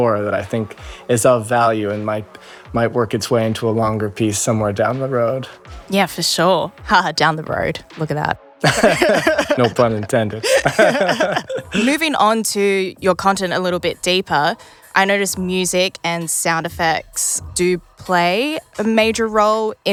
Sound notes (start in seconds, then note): 8.6 both chuckling